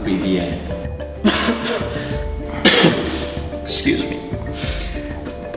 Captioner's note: coughs